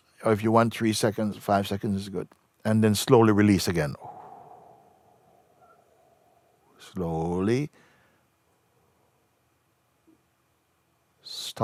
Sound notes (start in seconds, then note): 3.9 exhales slowly